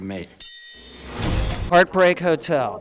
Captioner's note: ding